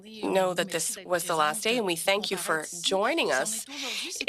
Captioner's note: speaking French